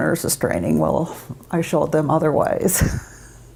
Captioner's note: chuckles